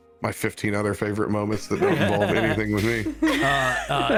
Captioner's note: all laugh; all still laughing